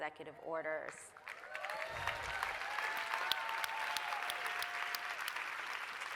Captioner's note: applause, cheering